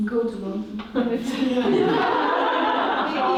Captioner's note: laugh